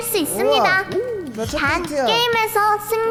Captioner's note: heart pounding